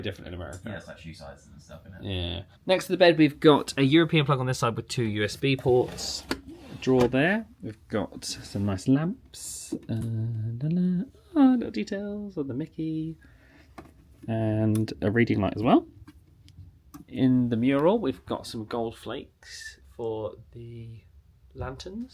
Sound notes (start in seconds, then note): 9.8 hums